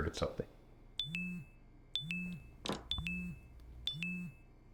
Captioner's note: phone chiming